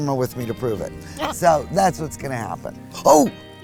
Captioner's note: laughs